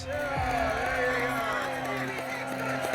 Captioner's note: cheering